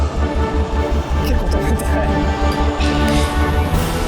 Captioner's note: laughs